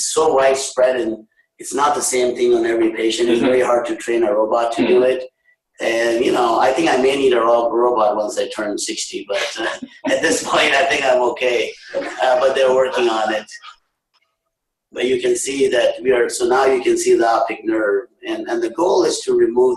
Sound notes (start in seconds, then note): 8.6 laughter